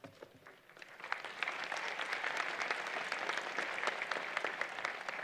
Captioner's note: applause